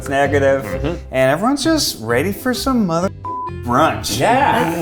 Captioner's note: beep